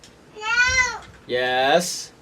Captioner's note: yelling